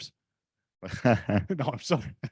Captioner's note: laughs